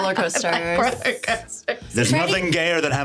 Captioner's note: laughing